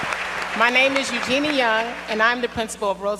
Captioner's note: applause